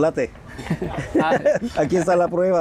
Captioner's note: laughter